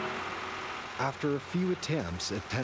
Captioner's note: voiceover